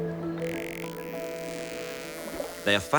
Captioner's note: dolphins clicking